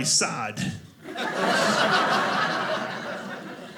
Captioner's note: audience laughing